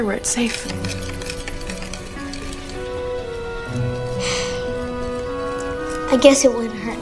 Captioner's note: sighs